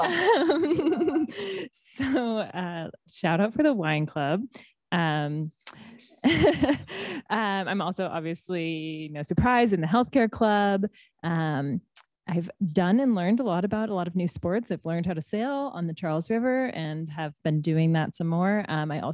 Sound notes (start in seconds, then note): 0.0 laughter; 6.2 laughs